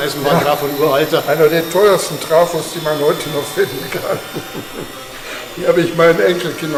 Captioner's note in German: Lachen